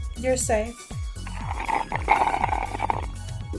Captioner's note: slurrrrrrrp